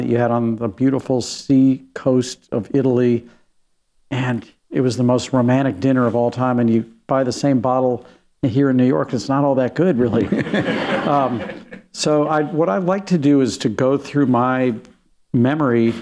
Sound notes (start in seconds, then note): 10.2 laughter